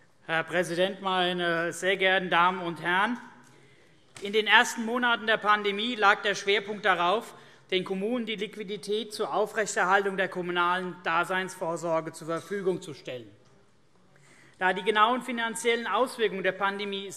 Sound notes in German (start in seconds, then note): none